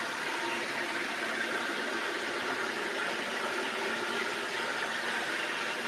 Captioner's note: blender whirring continues